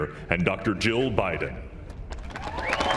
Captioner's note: cheers and applause